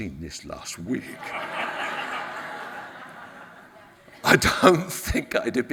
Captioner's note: audience laughs